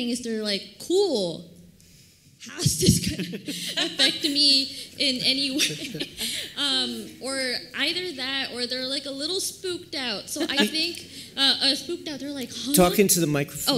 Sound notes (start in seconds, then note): 5.3 laughter